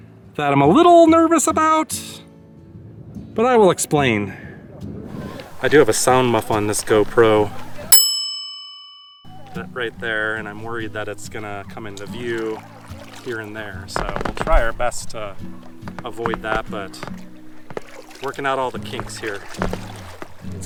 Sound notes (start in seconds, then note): 7.9 bell ding